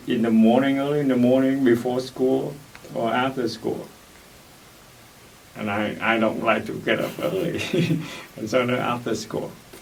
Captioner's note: laughs